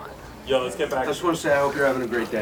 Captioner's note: voiceover